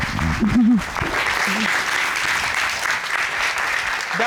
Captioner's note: cheers and applause